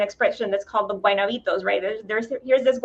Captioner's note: speaking Spanish